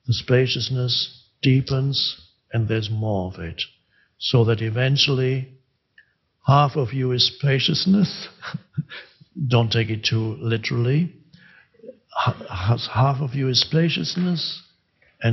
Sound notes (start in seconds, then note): 8.0 chuckles